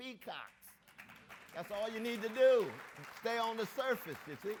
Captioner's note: audience applauds